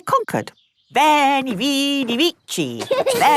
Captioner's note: laughing